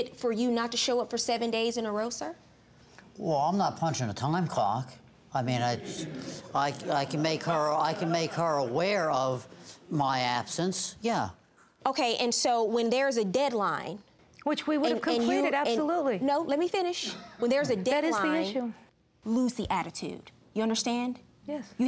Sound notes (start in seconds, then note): 5.8 audience laughing